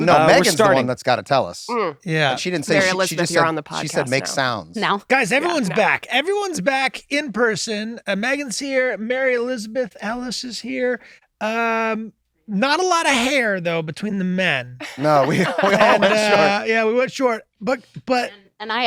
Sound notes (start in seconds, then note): 14.8 laughter